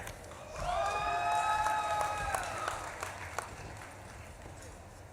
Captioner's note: audience claps and cheers